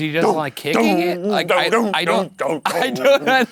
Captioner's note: imitating rhythmic drumming; laughing